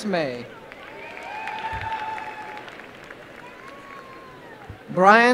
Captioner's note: applause